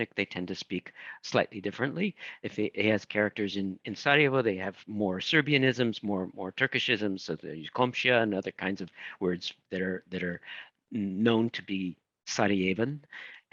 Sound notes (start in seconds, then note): 7.6 speaking in foreign language